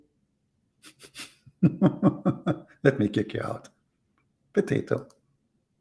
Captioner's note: Ketawa